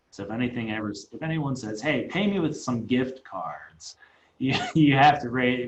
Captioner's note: laughs